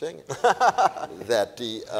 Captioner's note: laughs